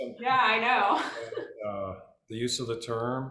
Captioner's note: laughs